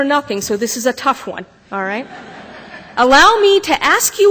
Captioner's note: laughter